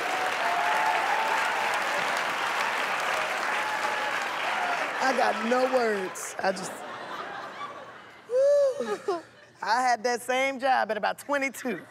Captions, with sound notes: I got no words. I just... Phew! [ Laughs ] I had that same job at about 22.